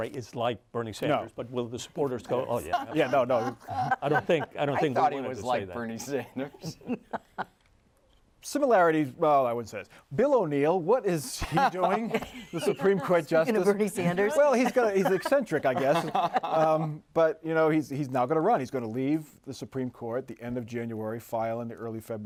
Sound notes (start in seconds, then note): 6.6 laughter